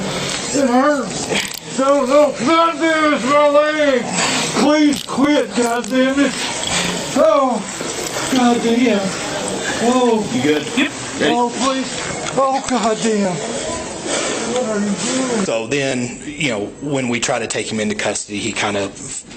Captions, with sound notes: It hurts. (Muffled screaming) My leg! Please quit, god damn it! God damn! - You good? - Yep! - Ready? - Oh please! Oh, god damn! What are you doing? - So then you know, when we try to take him into custody, he kind of